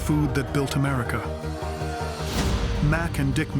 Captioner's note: crowd clamoring